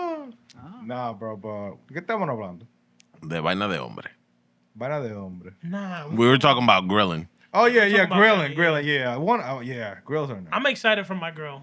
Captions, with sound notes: No, bro. (Speaking Spanish) We were talking about grilling. Oh, yeah, yeah, grilling. Grilling, yeah. Yeah, grills are nice. I'm excited for my grill.